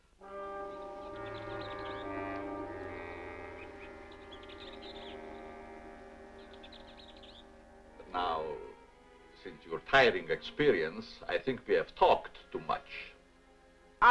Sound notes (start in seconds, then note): 0.2 dramatic music; 3.5 birds chirping